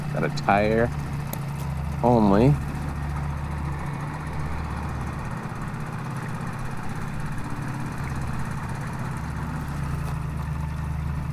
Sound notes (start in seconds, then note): 3.3 engine puttering